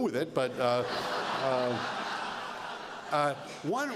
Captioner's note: laughter